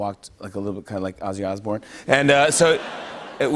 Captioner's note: laughter